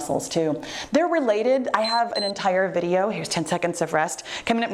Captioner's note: timer beeps